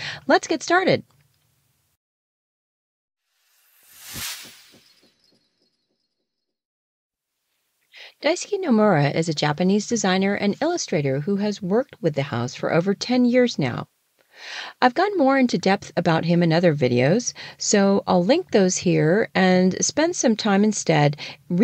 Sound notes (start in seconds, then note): 6.1 sound effect